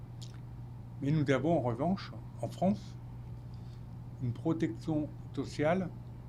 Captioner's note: speaking French